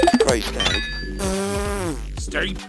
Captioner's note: blowing raspberry